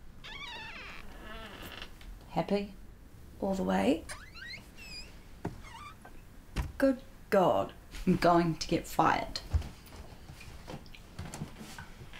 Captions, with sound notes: *door creaks* Happy? All the way... *door creaks* *door shuts* Good God I'm going to get fired *foot steps*